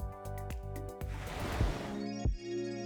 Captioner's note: upbeat music; ocean lapping; bright music